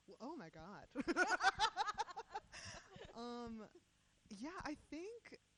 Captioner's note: laughing